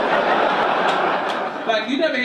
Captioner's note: audience laugh